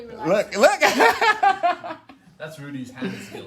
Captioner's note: laughs